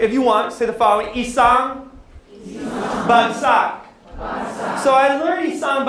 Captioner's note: non english speech, audience repeats; non-english speech